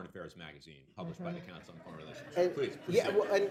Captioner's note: laughter